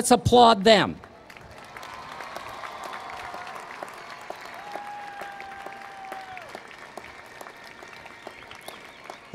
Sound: applause

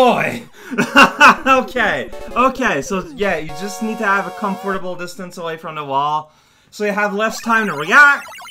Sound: laughs

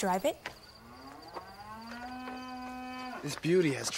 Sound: cow moos

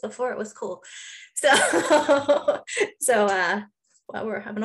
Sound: laughing

